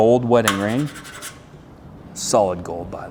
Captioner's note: metal scratching